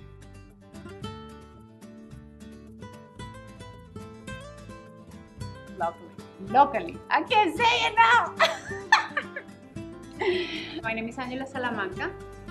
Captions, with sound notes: Local... locally... I can't say it now! (laughter) My name is Angela Salamanca